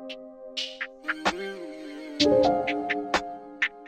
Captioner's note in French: Hmmm-hmm